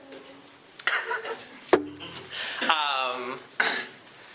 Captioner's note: laughter